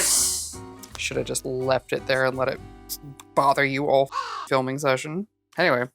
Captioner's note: caw